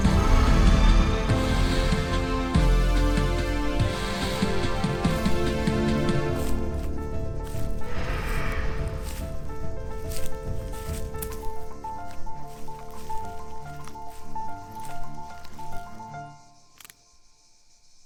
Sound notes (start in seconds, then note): 0.0 distant roar; 8.0 roar